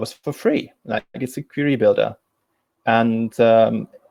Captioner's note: distortion muffles speaker